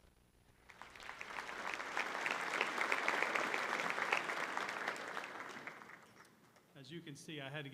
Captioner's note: applause